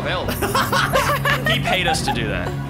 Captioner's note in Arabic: يضحك درامي